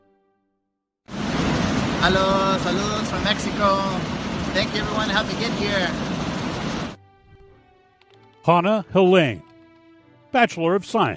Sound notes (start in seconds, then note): 3.2 speaks spanish